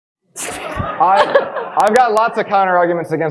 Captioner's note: audience laughing